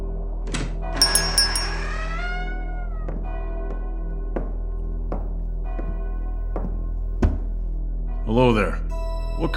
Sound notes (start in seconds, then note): 0.0 church Bells; 1.0 A door opens and as small bell rings; 2.4 footsteps